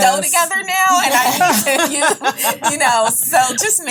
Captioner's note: ladies laughing